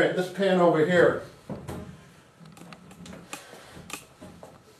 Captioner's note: ball bouncing